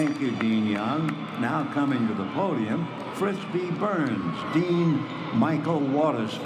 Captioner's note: applause